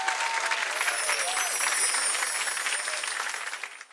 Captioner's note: bells chiming